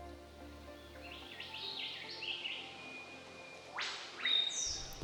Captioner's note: birds chirping